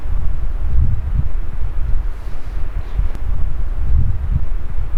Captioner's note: wind rumbling